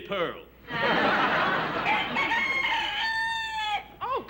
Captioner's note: rooster crows